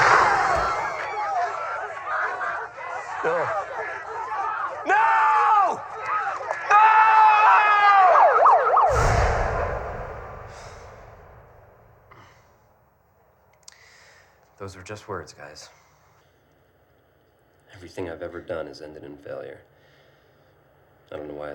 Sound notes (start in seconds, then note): 0.0 gunshot; 1.8 shrieks; 9.5 sirens